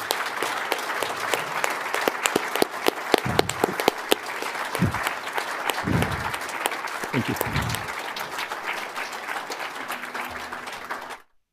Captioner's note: applause